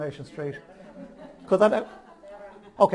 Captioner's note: audience chuckles